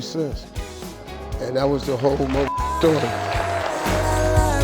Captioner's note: beep; audience clapping